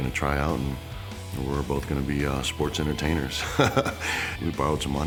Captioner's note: laugh